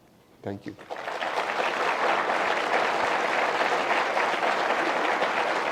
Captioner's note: audience applause